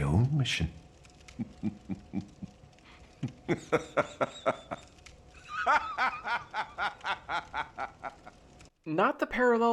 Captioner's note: boisterous laugh